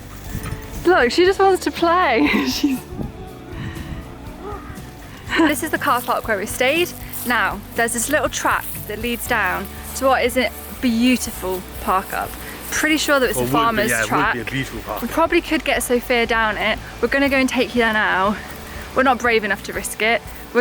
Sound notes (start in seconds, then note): 2.1 laughing